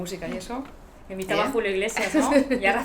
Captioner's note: risas